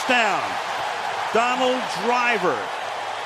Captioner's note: cheering